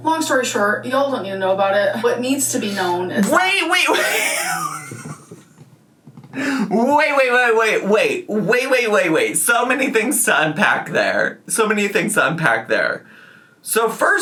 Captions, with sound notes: Long story short, y'all don't need to know about it. What needs to be known is- - Wait, wait, wait! (laughs) Wait, wait, wait, wait, wait, wait, wait, wait. So many things to unpack there. So many things to unpack there.